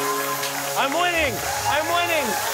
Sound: cheers and applause

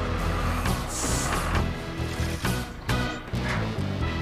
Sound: engine Running

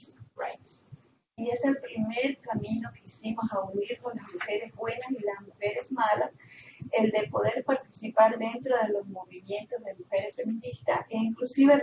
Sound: Spanish

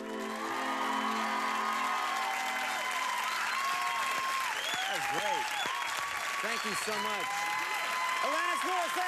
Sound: cheers and applause

